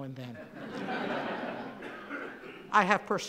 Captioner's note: laughing